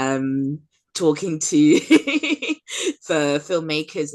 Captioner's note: laughs